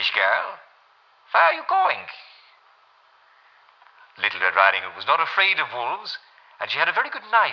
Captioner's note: German accent; regular voice